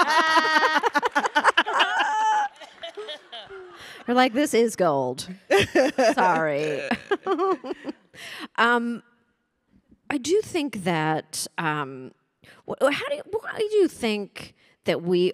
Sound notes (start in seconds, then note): 0.0 panelists laughing; 8.6 chuckles